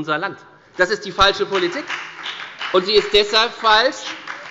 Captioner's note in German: Beifall bei der FDP sowie bei Abgeordneten der SPD